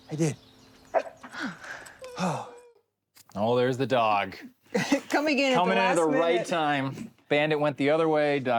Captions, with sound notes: - Yeah, I did. (dog barks) - Oh. - Oh. Oh, there's the dog. - Coming in at the last minute. - Coming in at the right time.